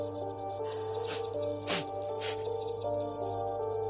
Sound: sniffles

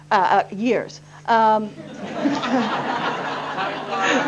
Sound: laughter

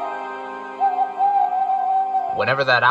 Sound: owl noises

